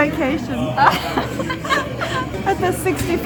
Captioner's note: laughing